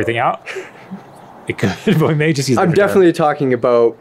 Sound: laughs

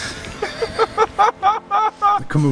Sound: laughs

